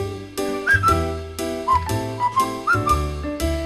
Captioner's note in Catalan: xiular